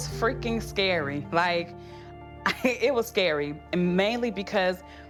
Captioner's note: chuckles